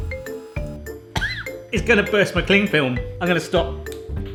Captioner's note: lighter clicking; Smoking Gun buzzing; coughing